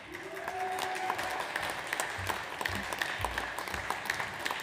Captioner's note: audience applauds